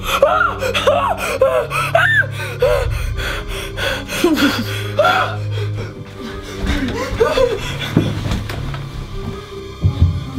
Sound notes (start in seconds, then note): 0.1 screams; 4.1 giggles; 5.0 screams